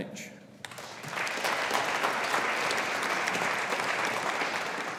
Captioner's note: audience applauding